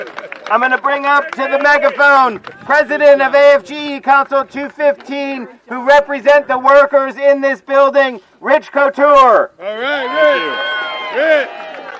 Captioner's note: cheering